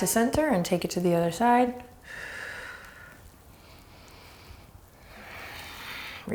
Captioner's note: deep breaths